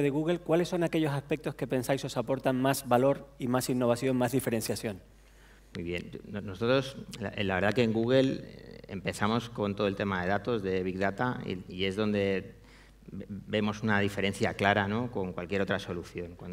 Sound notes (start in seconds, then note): 6.7 speaking spanish